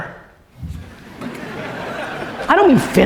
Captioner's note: crowd laughing